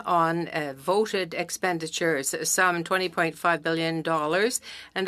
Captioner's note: speaking French